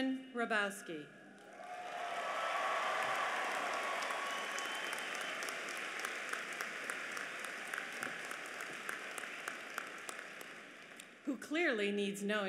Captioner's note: applause